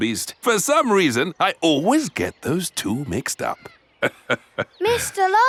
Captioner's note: laughs